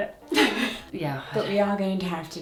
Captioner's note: laughs